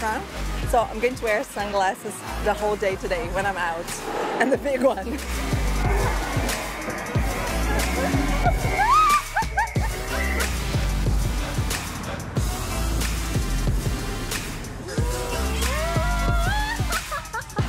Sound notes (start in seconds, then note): 8.4 laughs; 15.0 laughs